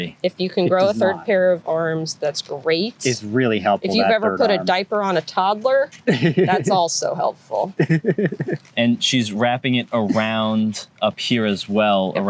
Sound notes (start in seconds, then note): 6.0 laughter